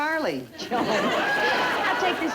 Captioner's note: audience laughter